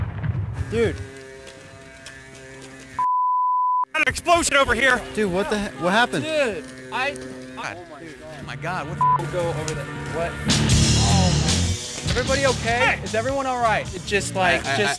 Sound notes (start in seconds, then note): 3.0 beep; 8.4 upbeat rock music; 9.0 beep